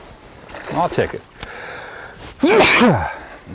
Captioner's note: splash